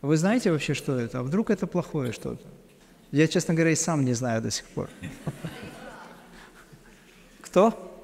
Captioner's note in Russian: смех